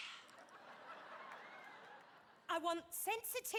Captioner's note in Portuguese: audience laughing